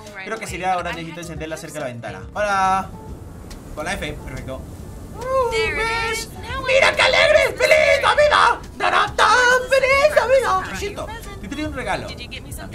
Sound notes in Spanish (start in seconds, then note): 5.1 Emocionado